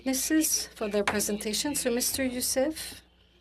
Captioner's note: speaking french